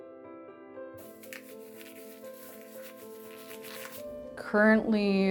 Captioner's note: gloves rustling